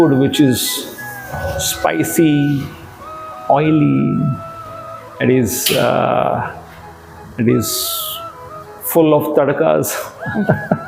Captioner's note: laugh